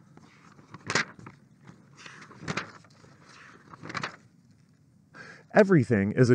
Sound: confused page turning

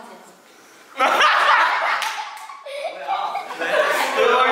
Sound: a perfect arrow of laughter

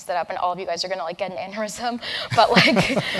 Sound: laugh

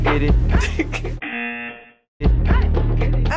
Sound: buzzer

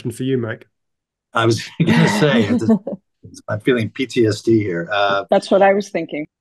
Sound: laughter

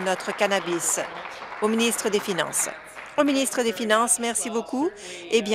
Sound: applause

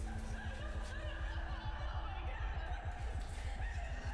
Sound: girls sobbing

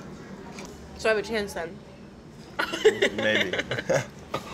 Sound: laughs

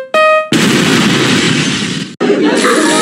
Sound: piano sounds; explosion

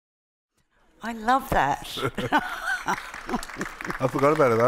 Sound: laughs

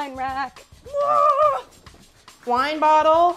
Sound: yells

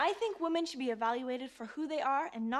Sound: none

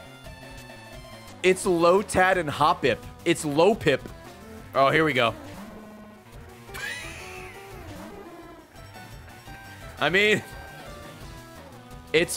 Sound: laughs

